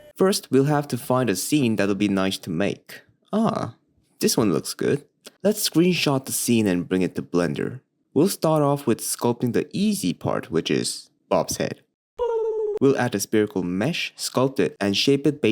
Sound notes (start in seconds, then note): 12.2 intense tongue roll